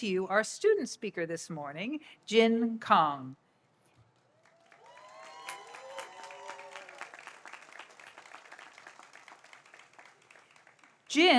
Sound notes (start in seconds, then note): 4.3 audience applauds